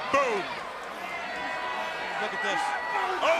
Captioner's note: crowd cheering